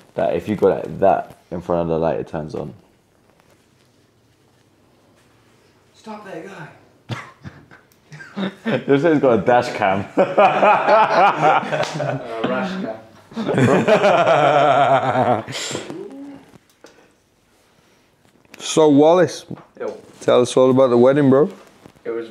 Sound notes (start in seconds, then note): 8.0 laughs; 10.1 all laugh